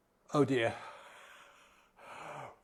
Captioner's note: exhales loudly